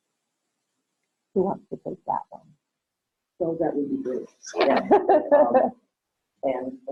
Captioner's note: laughter